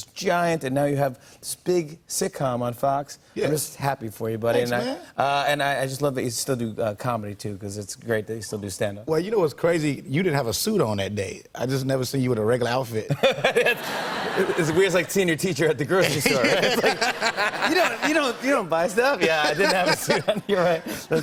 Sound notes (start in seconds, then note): 13.1 laughter